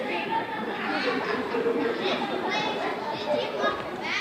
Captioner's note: audience laughing